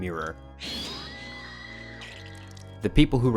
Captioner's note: screams